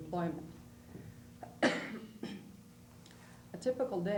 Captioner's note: coughs